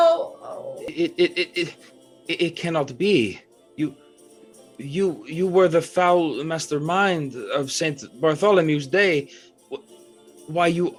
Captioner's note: sputtering